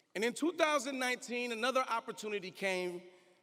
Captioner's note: none